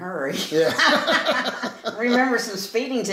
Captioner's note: laughing